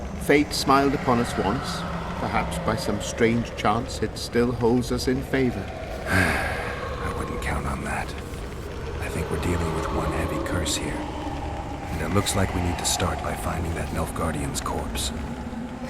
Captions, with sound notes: Fate smiled upon us once, perhaps by some strange chance it still holds us in favor? *Sigh* I wouldn't count on that. I think we're dealing with one heavy curse here, and it looks like we need to start by finding that Nilfgaardian's corpse.